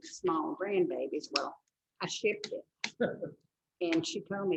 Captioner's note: laughs